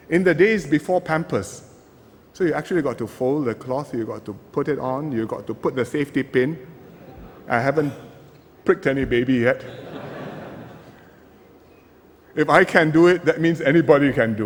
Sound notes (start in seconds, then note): 9.6 laughter